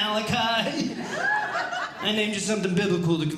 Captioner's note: audience Laughing